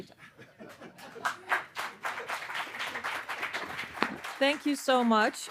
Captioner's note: audience applauding